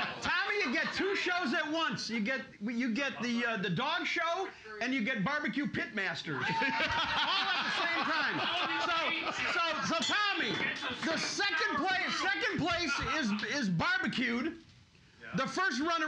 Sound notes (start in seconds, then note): 6.4 loudly laughing; 10.2 bell softly chimes